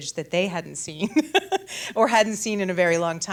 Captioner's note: laughs